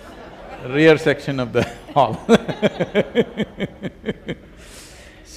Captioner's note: laughter; 笑聲